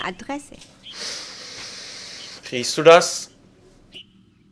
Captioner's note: breathes in